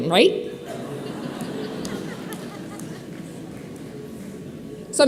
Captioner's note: audience laughing